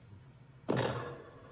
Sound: door slams

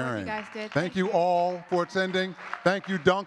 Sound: audience clapping

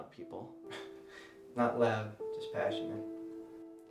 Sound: laughs

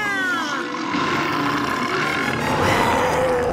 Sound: roaring; growling

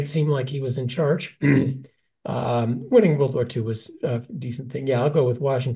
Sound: cough

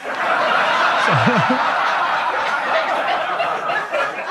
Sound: audience laughing

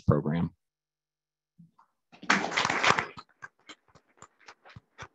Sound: audience clapping

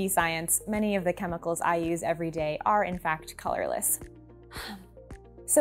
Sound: sigh

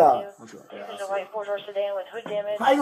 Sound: radio chatter

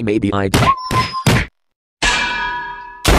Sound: clang!; blows landing, micheal whines

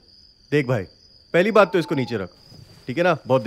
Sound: in Hindi

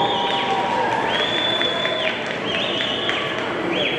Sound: audience whistling

